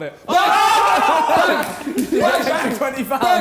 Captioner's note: men cheering